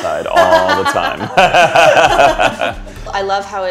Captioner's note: laughter